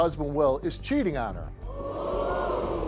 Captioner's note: audience ohs